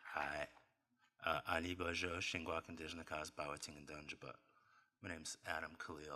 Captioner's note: non-english speech